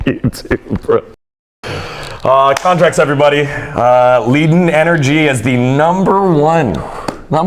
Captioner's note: laughs